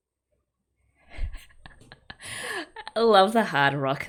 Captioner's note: laughs